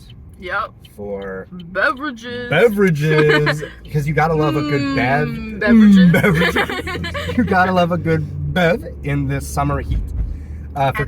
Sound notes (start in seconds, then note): 5.8 laughter